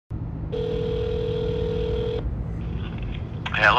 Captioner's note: phone ringing